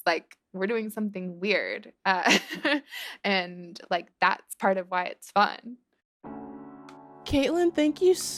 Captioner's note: laughter